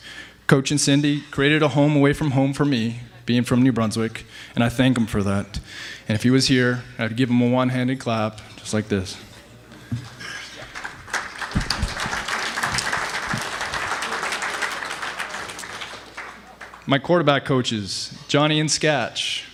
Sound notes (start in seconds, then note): 10.0 applause